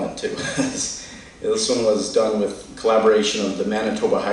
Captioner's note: chuckles